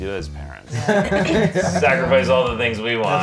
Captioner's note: laughing